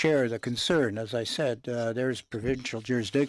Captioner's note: speaking French